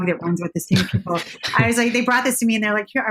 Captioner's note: chuckles